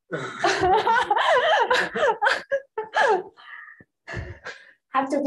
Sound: laughter

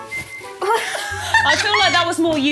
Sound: laughing

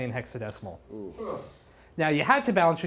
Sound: noises of surprise

